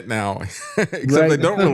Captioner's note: laughing